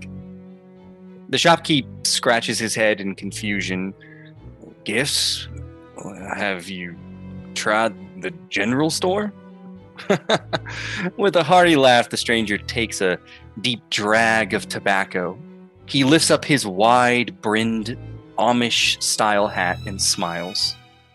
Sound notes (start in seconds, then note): 10.0 ??? laughs